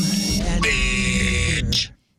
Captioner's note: buzzer